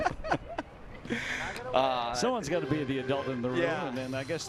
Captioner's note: laughing